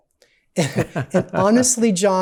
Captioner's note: laughs